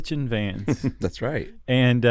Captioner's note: laughs